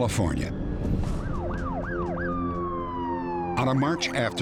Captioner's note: sirens wailing